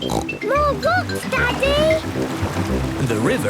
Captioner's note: snorts